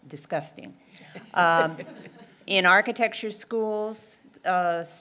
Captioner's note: laugh